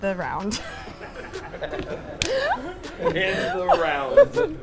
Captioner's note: laughing